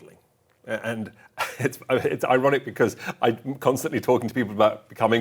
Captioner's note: chuckling